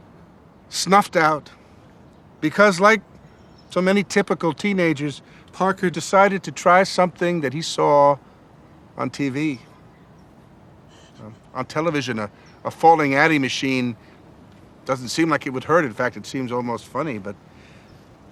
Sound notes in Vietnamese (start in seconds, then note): 10.9 tiếng nấc nghẹn